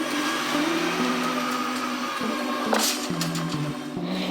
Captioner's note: truck buzzing